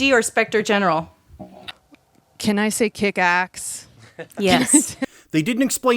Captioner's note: laughter